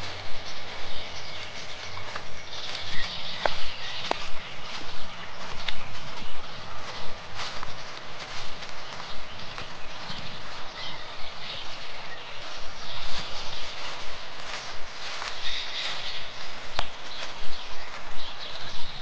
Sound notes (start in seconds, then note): 6.5 water, birds chirping, walking, peaceful music